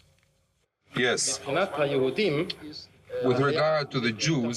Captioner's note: Eichmann speaking German